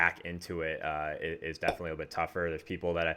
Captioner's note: popping sound